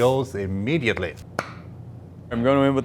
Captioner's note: lid pops